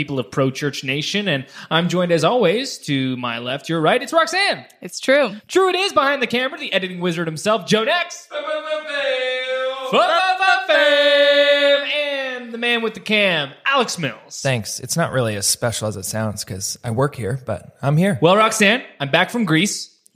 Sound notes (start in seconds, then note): 8.6 yelling